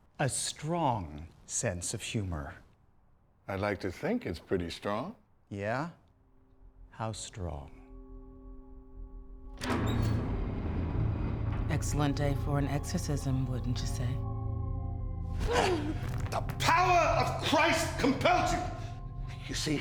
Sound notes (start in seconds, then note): 8.2 soft suspenseful music; 9.6 door rattles; 15.4 Mirabeth groans